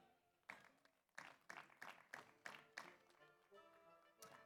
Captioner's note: audience applauds